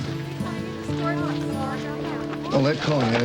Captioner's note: background chatter